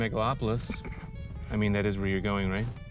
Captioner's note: scoffs